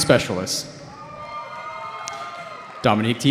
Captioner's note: cheering